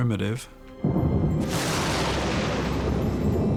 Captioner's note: thunder